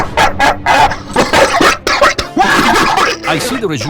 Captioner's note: coughs violently